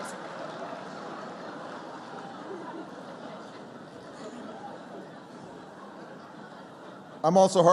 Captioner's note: laughter